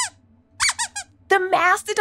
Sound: squeaks squeaks

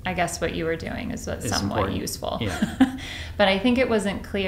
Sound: chuckles

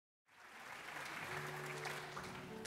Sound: audience applauds; gentle piano music

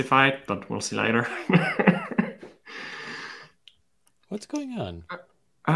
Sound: laughs

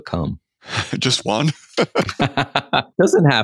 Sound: laughing

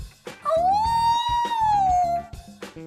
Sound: howling

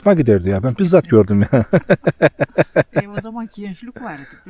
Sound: sound of laughter

